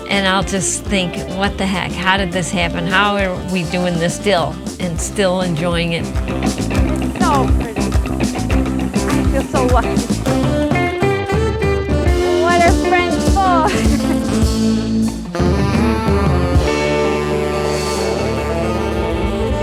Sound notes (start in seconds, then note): 14.7 laughs